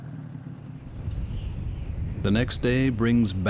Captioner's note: wind whistling